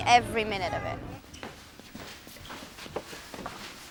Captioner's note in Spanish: pasos